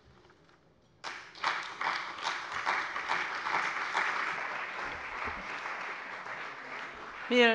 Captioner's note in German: Beifall bei dem BÜNDNIS 90/DIE GRÜNEN, der CDU und der FDP